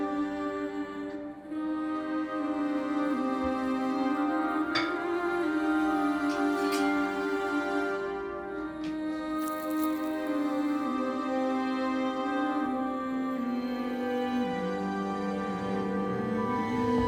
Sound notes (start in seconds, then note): 1.2 humming continues; 6.6 knife rings; 9.8 knife slices